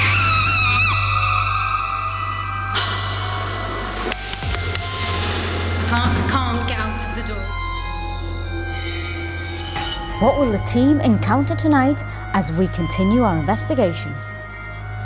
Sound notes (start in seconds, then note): 0.0 screaming; 4.4 slamming; 7.6 eerie music